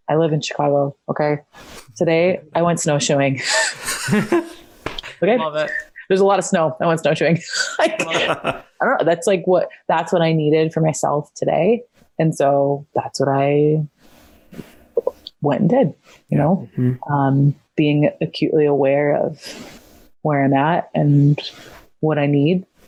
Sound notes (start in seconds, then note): 3.4 all laugh; 7.5 both laughs